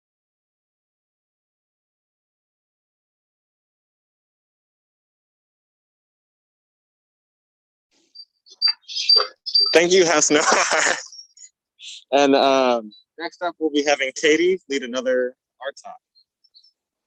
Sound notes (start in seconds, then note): 8.5 mic feedback noises; 11.6 laughs